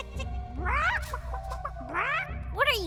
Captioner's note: clucking